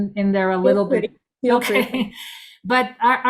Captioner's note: laughs